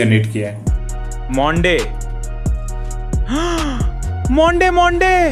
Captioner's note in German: Plötzliches lautes Einatmen